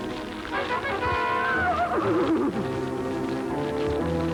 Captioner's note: neigh